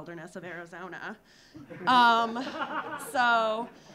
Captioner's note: audience laughing